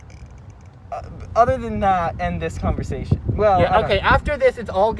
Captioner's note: stutters